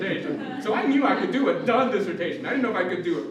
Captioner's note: laughter